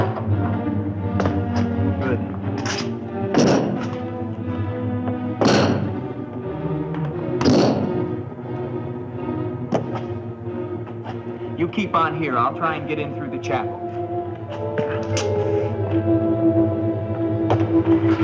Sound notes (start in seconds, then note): 3.3 ax thudding; 3.3 suspenseful music continues; 15.7 suspenseful music continues; 18.0 gate whirring